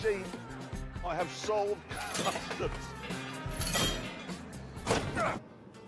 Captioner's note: clattering; clunk